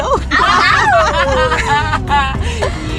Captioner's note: laughing